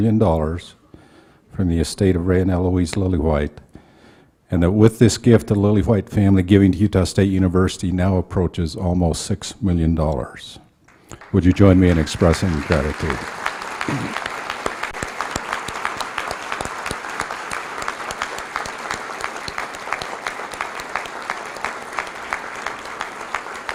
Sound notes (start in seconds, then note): 12.9 applause